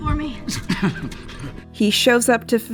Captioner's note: Joel chuckles